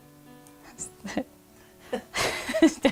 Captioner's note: laughs